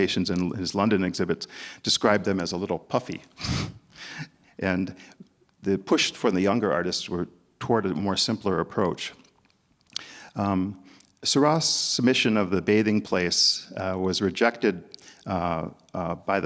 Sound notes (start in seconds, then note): 3.9 chuckles